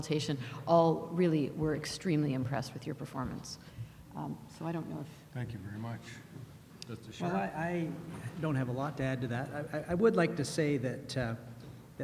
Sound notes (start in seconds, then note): 5.6 voiceover